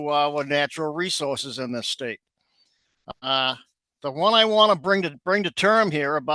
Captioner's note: audio cutting out